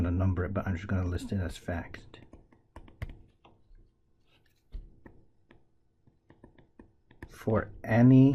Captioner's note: tapping Sounds